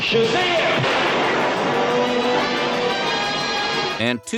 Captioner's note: thunderclap